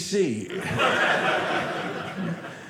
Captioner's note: audience laughing